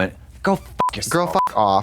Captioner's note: beep